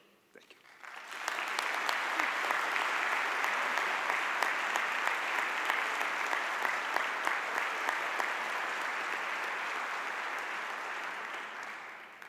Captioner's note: audience applause